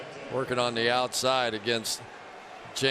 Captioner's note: crowd cheering